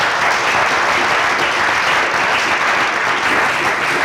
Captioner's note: applause